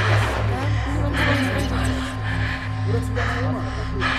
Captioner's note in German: Kims Stimme flüstert; schweres Atmen